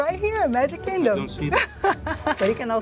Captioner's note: laughs